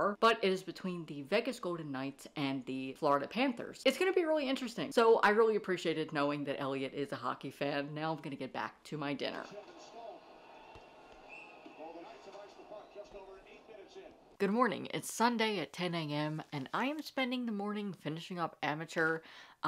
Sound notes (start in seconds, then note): 11.2 whistle Blown